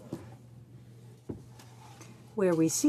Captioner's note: speaking French